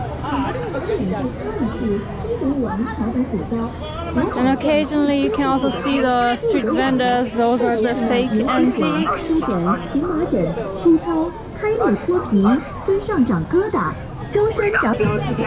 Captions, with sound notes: Occasionally, there are street vendors Those are fake antiques (Loudspeaker advertising)